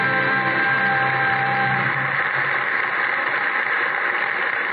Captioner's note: applause